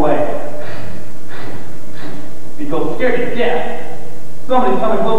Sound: rattle, rattle, rattle

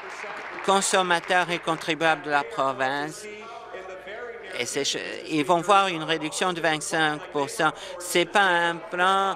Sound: applause

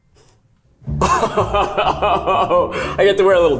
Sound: laughing

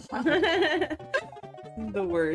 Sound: both Laugh

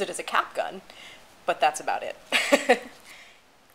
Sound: laughter

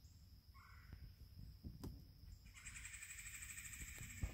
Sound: bird sings

